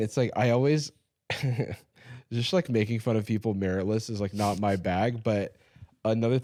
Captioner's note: chuckling